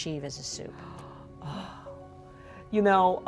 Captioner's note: sighs